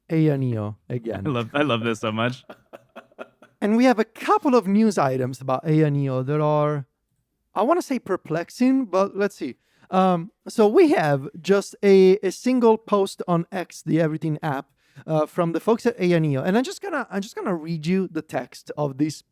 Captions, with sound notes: AYANEO again. I love, I love this so much. (laughs) (laughs) And we have a couple of news items about AYANEO that are, I wanna say perplexing, but let's see. Um, so we have just a, a single post on X, the Everything app, uh, from the folks at AYANEO, and I'm just gonna, I'm just gonna read you the text of this